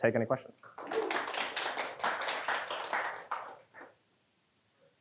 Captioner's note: audience applauding